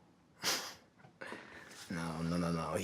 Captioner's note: Dawit chuckles softly